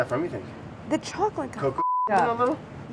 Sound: beeping

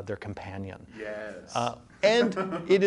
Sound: laughs

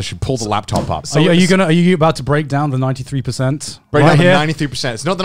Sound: all laughing

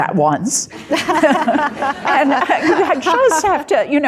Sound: audience laughing; chuckles

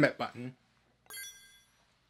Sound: bling

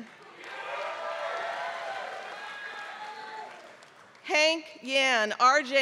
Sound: applause

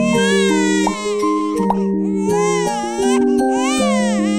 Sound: baby crying

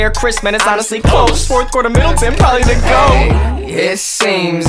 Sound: ehh

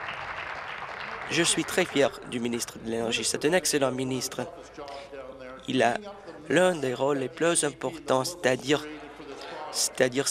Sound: applause

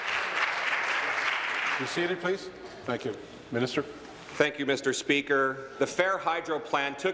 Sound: applause

